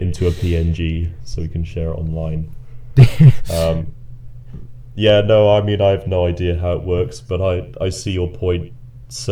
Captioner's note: chuckling